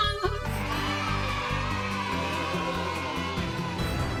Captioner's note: cheering